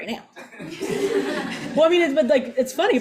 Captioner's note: all laugh